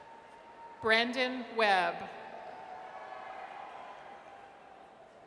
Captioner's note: audience cheers